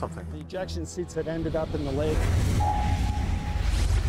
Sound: voiceover

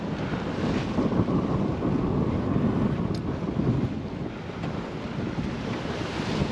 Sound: sounds of waves and wind

